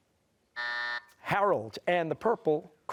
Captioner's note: buzzer